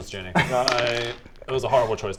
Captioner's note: dice roll